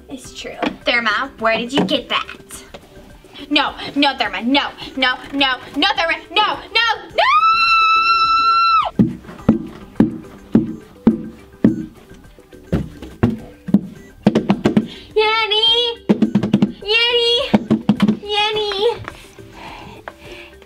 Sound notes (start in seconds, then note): 10.0 banging the box; 16.0 drumming on the box